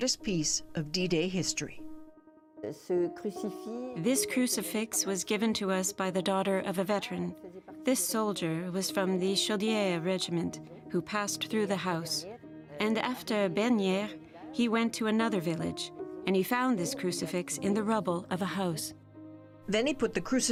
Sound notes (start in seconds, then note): 6.1 speaking French